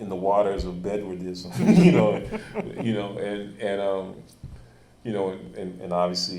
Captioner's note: chuckling